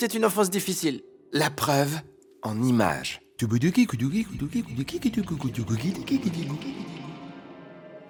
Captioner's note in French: Bruit de retour arrière à la bouche